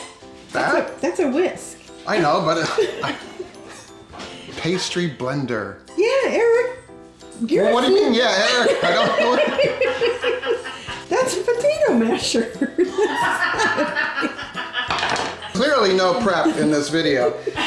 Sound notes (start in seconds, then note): 2.6 both laugh; 8.4 both laugh; 11.9 people laugh in the background